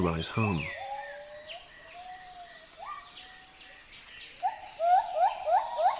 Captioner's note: howling